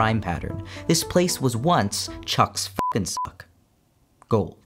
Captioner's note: beeps